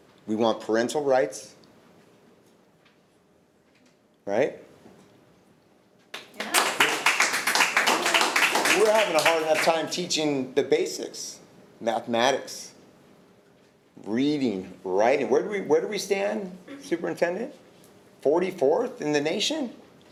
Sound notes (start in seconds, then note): 6.1 attendees clapping